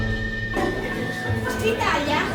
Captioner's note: party voices